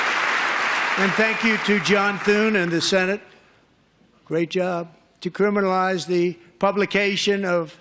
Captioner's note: applause